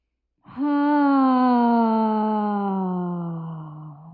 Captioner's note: all sigh